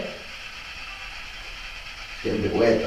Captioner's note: white noise